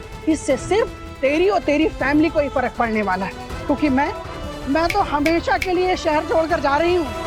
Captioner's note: none